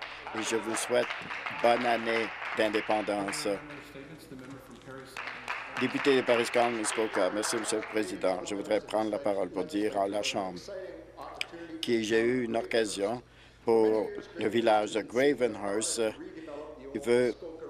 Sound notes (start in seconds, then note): 5.9 applause